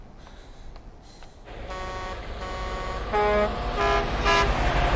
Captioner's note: horns honking